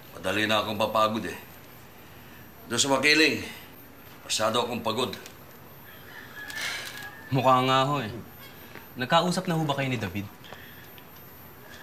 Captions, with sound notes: I’m already getting tired easily. There in Makiling... I got way too tired. -[sighs] -Looks like it. Have you and David talked?